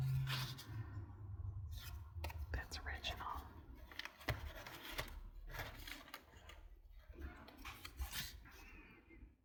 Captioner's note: whispers